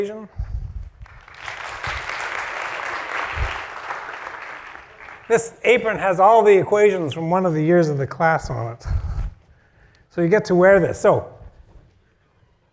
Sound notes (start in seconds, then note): 1.0 applause